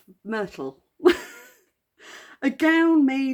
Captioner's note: laughing